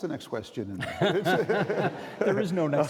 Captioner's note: all laughing